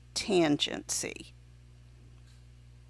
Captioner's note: silent